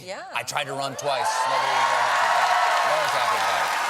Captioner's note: cheers and applause